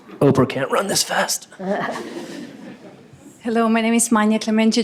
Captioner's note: laughter